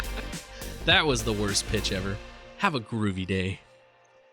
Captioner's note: chuckle